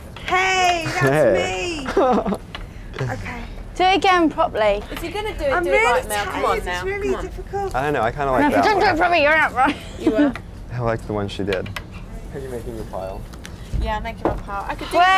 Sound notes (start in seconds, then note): 1.8 laughs; 9.7 laughs